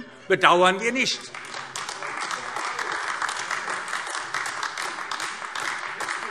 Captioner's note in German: Heiterkeit und Beifall AfD